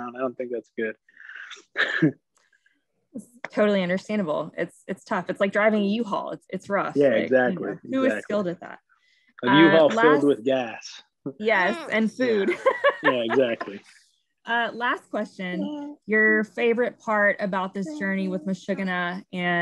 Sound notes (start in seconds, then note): 2.7 laughing; 9.4 laughign; 11.6 laughing